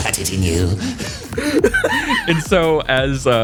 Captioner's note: laughs